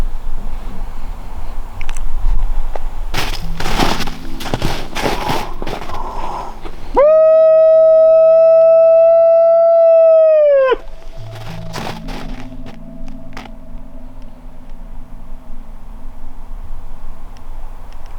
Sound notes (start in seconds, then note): 7.0 howling